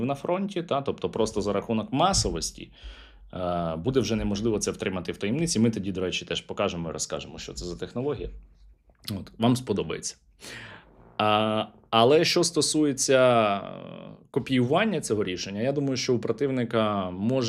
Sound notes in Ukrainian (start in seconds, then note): 10.4 сопіння